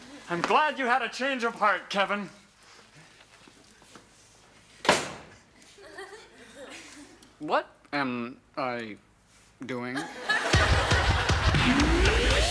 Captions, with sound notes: - I'm glad you had a change of heart, Kevin. (door slams) (audience laughs) - What am I doing? (audience laughs)